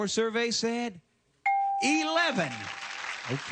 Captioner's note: ding